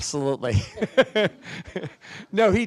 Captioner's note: laughs